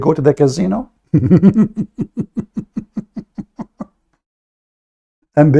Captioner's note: Ketawa